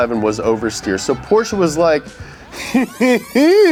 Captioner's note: chuckles